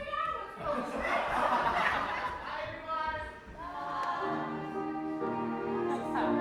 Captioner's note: audience laughs